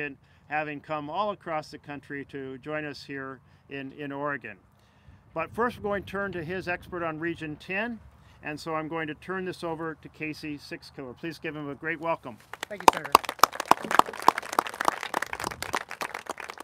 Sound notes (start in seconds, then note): 12.4 applauses